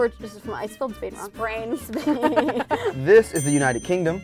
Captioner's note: laughing